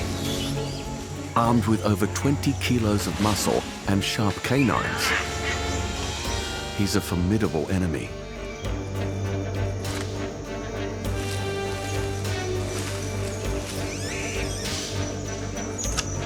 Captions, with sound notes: Armed with over 20 kilos of muscle and sharp canines… He’s a formidable enemy. [dramatic music playing] [screeches]